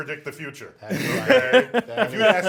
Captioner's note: laughs